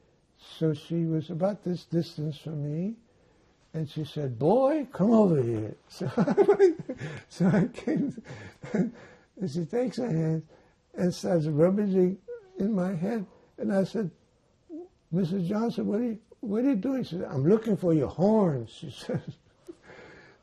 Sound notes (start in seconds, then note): 5.9 laughing